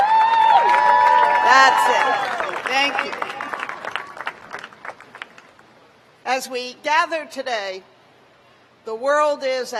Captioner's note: cheers and applause